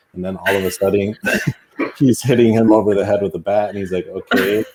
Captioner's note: laughing